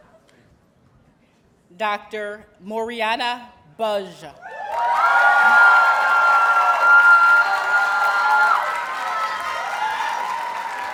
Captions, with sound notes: Dr. Mariana Budge. [Audience cheers and applauds]